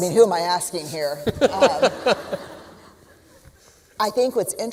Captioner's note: laughter